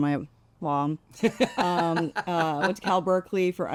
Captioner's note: laughs